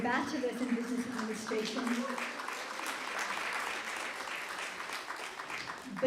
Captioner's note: applause